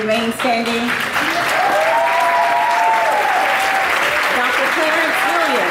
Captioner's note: audience applauding